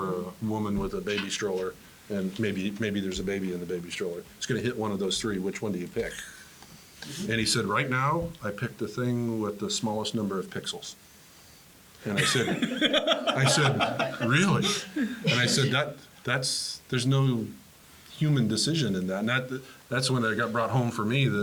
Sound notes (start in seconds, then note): 12.1 laugh